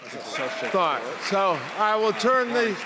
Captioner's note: audience cheering